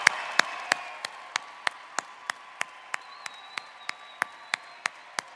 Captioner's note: applause